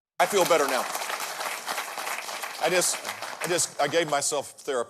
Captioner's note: applauding